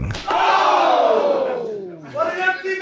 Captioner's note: audience cheering